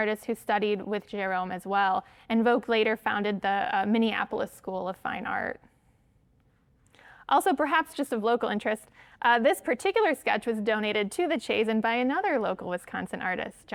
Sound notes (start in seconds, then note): none